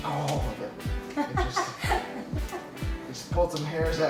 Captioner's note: laughing